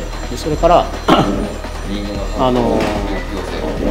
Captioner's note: ringing